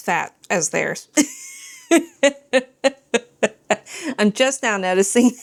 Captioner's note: laughs